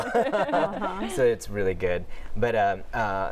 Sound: laughter

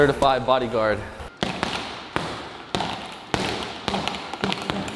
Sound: punching sounds

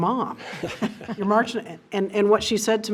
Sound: trustees laugh

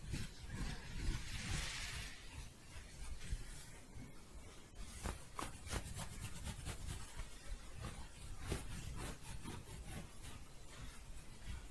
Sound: louder scratching

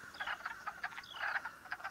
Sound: quacking

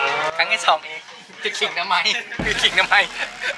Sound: laugh

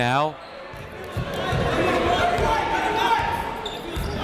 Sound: chatter

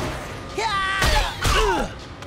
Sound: grunting

